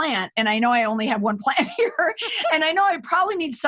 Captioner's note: laughs